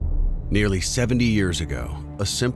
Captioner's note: voiceover